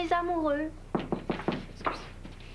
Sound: On frappe à la porte

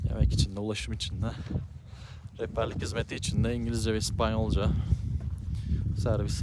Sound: in English and Spanish

